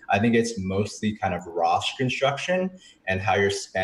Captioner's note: none